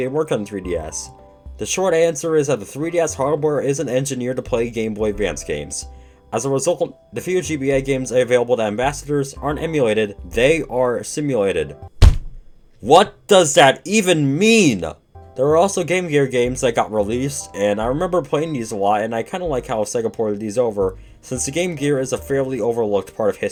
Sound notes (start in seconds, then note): 12.0 thud